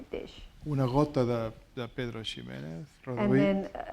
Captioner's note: speaking spanish